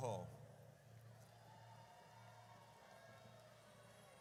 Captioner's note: audience cheers